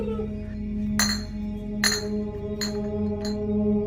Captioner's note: medicine vials clacking into the distance